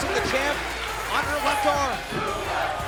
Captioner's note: crowd cheering